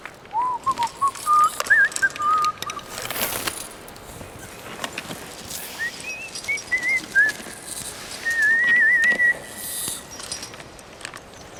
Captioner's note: whistling " "